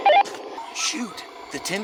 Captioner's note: radio beep